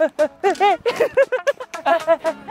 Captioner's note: laughter erupts